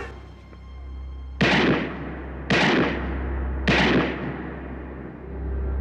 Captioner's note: gunshots ringing